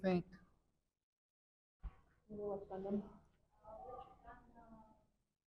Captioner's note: attendees faintly speaking